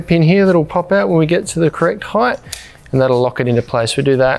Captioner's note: pin clicking